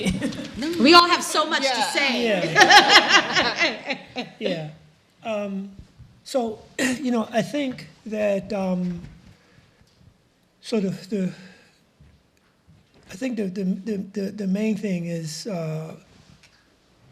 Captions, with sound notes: - No. - We all have so much to say. (audience laughs) - Yeah. So, you know I think that, I think the main thing is